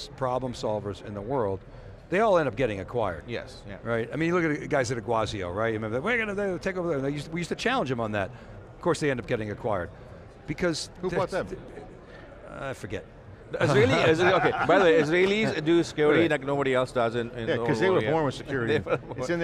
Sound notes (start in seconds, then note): 13.6 laughing